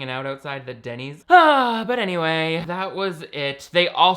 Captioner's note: sighs